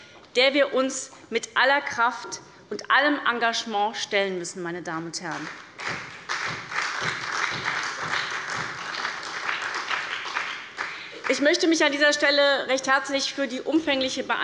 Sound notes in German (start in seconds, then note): 5.3 Beifall bei der SPD